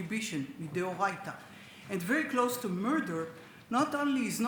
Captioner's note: speaks Hebrew